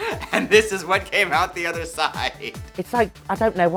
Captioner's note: chuckles